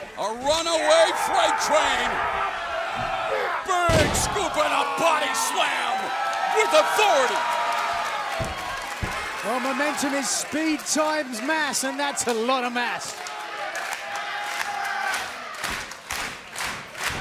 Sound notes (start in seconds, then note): 8.3 cheers and applause; 15.5 clapping